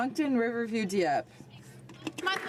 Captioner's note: some Applause